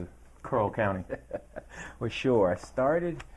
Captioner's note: laughing